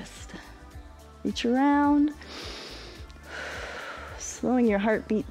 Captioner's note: inhales and exhales